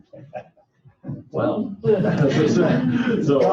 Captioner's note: laughing